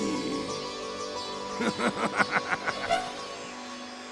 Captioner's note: laughs